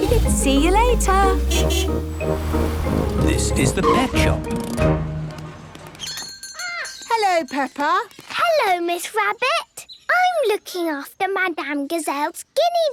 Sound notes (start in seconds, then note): 6.0 bell jingling